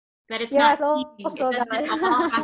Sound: laughs

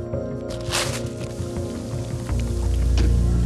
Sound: ripping; sizzling

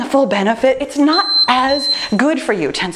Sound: timer beeps

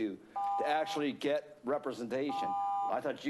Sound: beeping

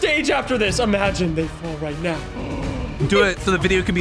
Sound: gasps

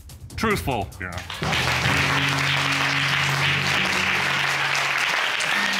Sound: applause; laughs

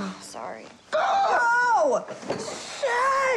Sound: screeching

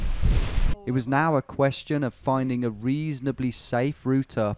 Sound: voiceover

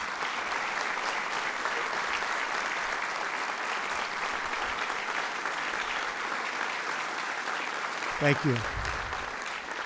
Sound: applause

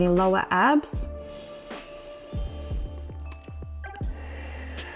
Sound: inhales and exhales

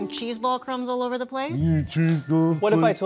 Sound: mocking

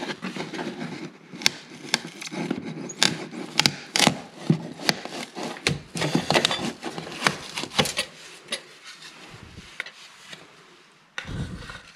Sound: baseboard cracking noise

